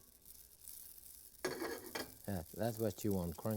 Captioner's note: breadcrumbs sizzling; pan shuffling